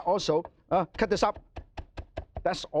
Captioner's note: knife chopping